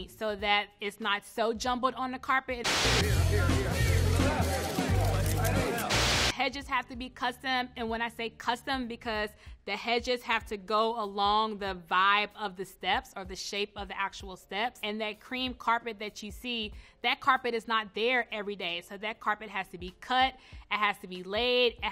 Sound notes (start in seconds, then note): 2.7 upbeat jazzy music; 4.0 photographers clamoring